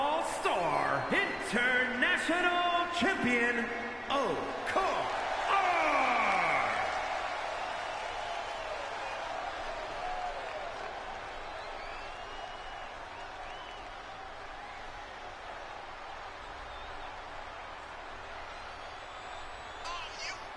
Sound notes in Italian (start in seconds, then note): 8.5 Applauso